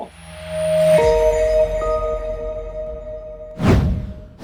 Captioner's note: air whooshing